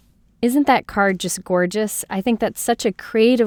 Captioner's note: voiceover